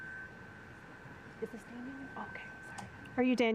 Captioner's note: interim Superintendent faintly speaking